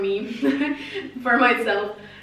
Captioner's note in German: laughs